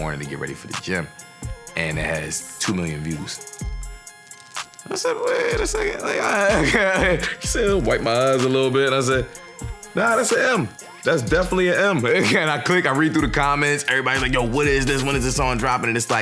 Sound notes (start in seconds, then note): 4.9 chuckles